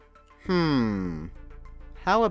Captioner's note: villager sound